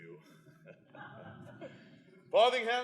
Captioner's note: laughter